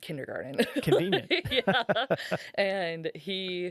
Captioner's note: laughing